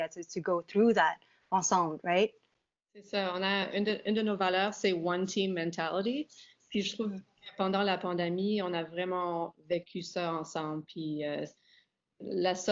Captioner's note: speaking in French